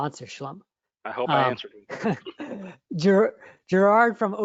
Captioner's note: laughter